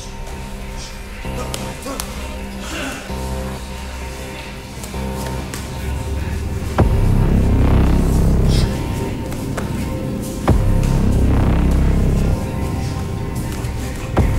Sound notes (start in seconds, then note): 0.1 low key dramatic music; 5.2 strikes thwacking pads